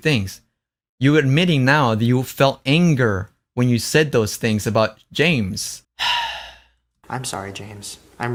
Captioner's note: sighs